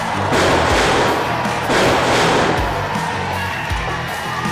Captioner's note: powerful loud echo as Dark Shadow slams to the mat